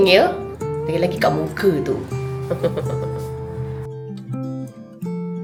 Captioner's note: laugh